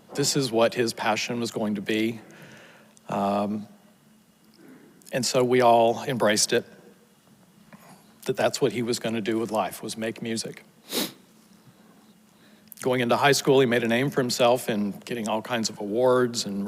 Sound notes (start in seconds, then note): 10.8 sniffles